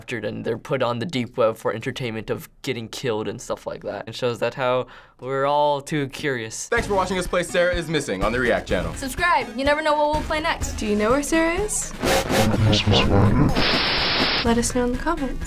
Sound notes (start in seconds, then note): 11.9 static; 12.7 deep, distorted speech